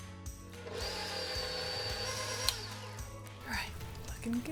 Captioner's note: mixer roaring